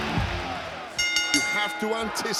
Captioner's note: bell rings